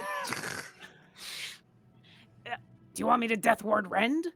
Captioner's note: chuckling